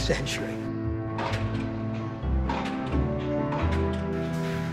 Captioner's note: stamping